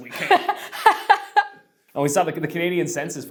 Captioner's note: laughs